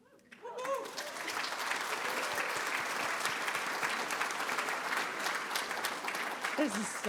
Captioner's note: applause